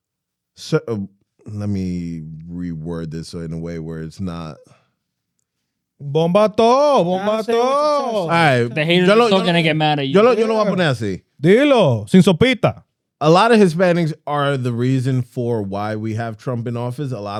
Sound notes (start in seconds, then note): 10.3 speaking In Foreign Language